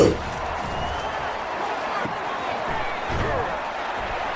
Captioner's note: crowd Noises